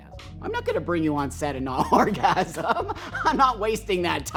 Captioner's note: laughing